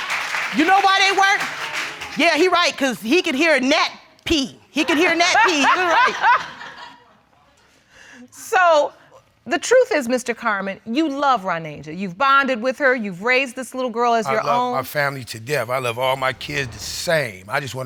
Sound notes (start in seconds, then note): 4.8 laughs